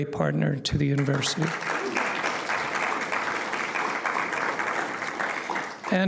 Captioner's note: applause